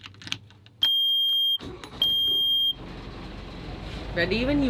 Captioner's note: starter beeps